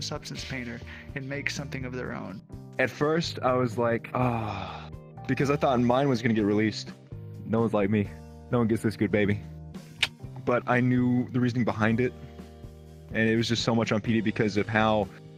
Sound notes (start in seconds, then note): 4.2 sigh